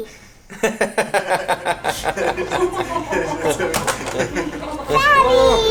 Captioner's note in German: Lachen